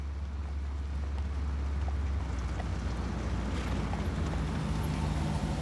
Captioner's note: none